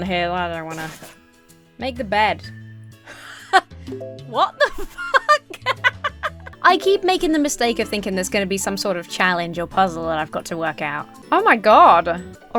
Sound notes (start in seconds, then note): 4.3 laughs; 4.5 chuckles